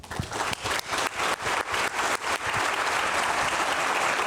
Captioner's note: people applauding